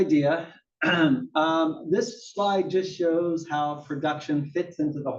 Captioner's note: cough